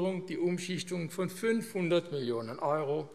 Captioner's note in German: none